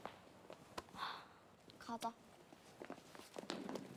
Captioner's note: sighs